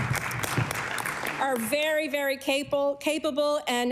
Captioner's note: applause